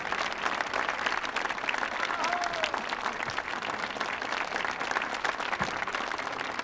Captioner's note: audience applauding and cheering